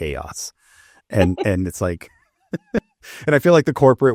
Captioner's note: chuckles